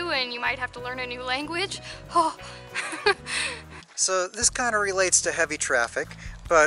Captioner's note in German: Gelächter